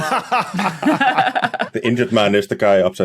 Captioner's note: group laughing